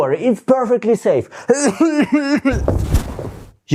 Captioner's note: coughing